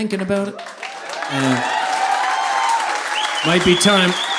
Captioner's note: audience applauding